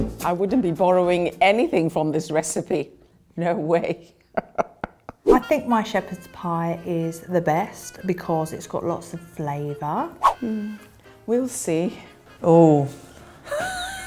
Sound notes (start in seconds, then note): 0.0 lively upbeat music; 4.4 laughing; 12.3 laughing